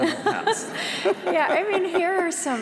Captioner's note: laughter